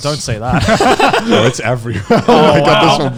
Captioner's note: laughing